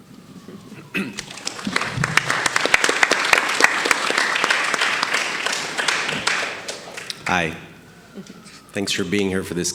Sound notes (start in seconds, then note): 1.1 audience applauding